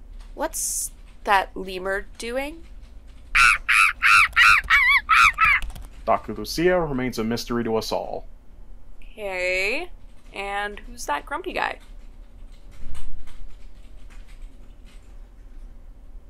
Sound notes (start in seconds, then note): 3.3 violent Lemur Sounds; 12.6 office Ambiance